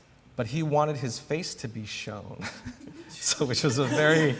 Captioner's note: laughter